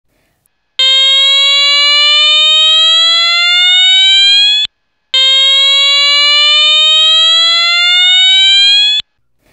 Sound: alarm sound

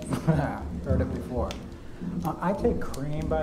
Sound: voices receding

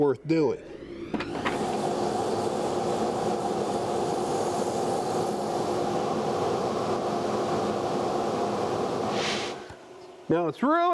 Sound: sanding

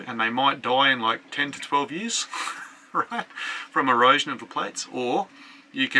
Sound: laughs

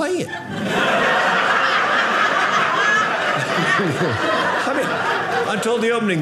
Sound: audience laughing

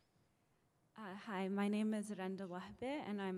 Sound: voiceover

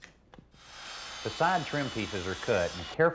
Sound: circular saw buzzing

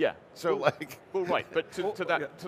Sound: chuckling

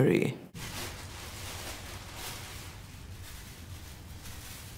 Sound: rustling

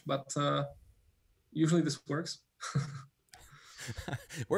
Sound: laughs

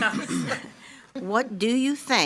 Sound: laughs

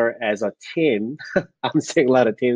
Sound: laughs

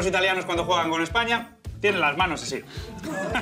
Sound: laugh

